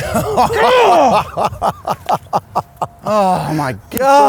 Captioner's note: laughs